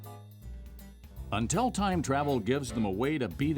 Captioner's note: voiceover